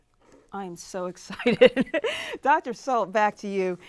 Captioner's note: laughs